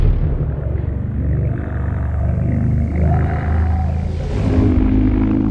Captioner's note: deep droning